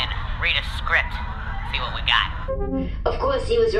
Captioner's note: playback-ends noise